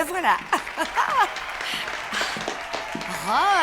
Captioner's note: applause